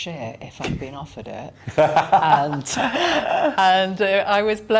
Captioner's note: laughing